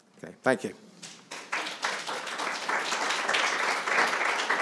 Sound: attendees applauding

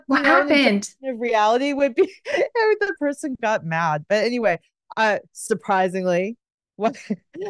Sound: giggles; giggles

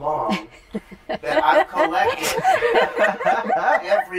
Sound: laughter

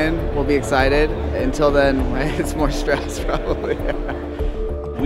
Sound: laughs

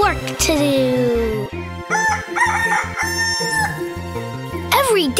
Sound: cock-a-doodle-doo

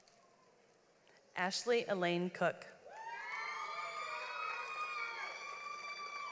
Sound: audience applauds

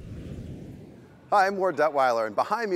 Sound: air whooshing

